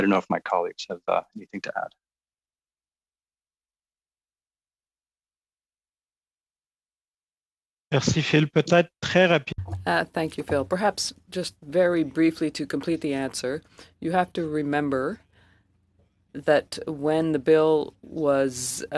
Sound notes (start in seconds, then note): 11.6 speaking French